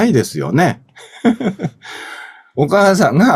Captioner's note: laughs